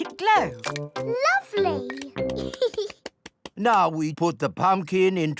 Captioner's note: giggles